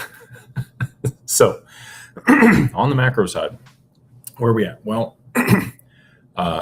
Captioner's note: laughter; clears throat